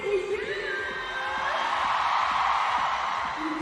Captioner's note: crowd cheering